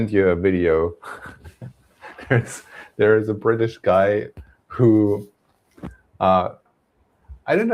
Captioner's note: laughs